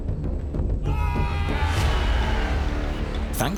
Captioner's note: hunters shouting